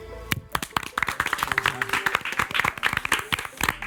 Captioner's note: group applauds